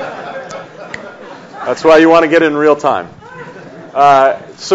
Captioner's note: audience laughs; snaps fingers